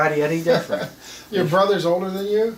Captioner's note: laughs